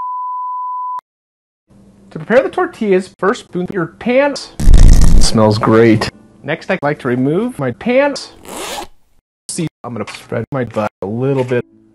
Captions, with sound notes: To prepare the tortillas, first poop your pants! (devilish farting) SMELLS GREAT... Next I like to remove my pants! (unzip) See... I'm gonna spread my butt... a little bit...